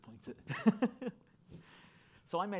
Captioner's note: laughing